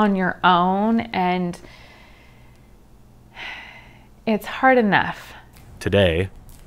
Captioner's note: sighs